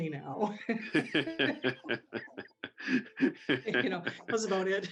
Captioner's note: both laughing